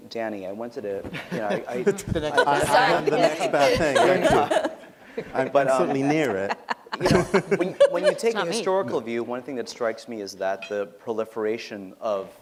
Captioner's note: laughter